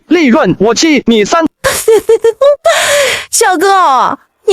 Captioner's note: laughs